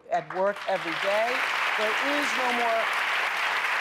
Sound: applause

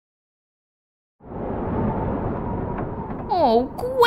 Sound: thunder!

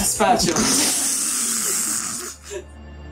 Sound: blows nose into camera microphone

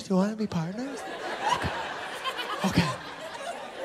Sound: laughter

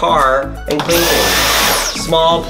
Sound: vacuum suctioning

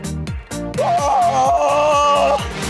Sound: yelling

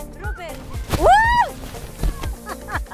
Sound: screams; chuckles

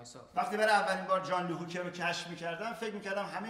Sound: speaking in farsi

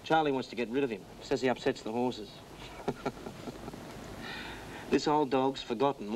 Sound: chuckles

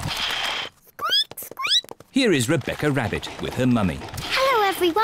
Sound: ducks quack; squeaks

